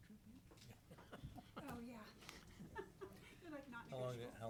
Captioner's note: chuckling